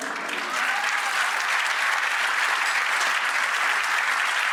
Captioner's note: crowd applauding